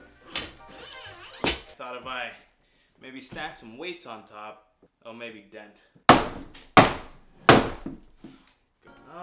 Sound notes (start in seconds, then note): 0.9 weight sliding; 7.5 hummer bumping